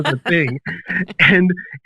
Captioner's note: laughs